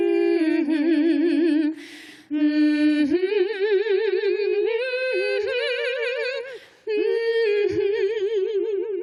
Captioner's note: humming melody